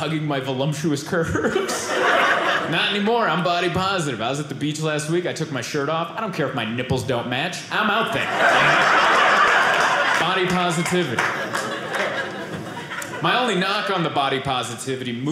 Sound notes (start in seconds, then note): 8.1 audience laughing